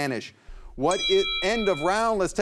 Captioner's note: bell dings